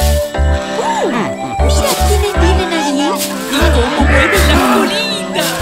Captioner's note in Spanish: Música alegre; Sonido de patos